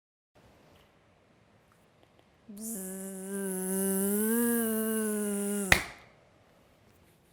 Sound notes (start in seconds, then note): 2.6 buzzing noise